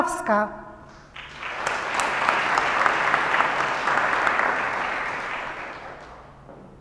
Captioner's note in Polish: oklaski